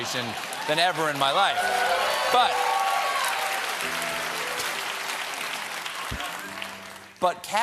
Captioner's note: cheers and applause